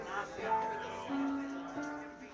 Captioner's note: crowd chattering